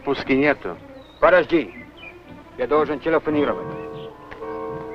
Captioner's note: foreign language; vintage music